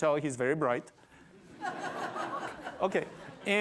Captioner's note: laughter